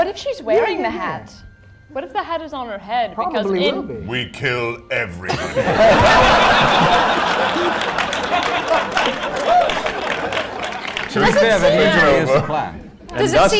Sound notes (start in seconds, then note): 5.2 laughter